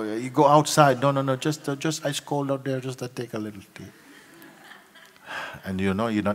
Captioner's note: laughter